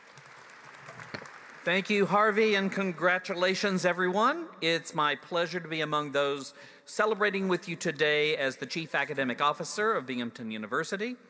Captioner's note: applause